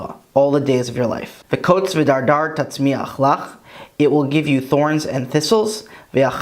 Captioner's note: Hebrew